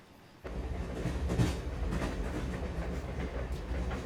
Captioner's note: train rumbling